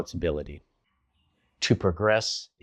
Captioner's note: beat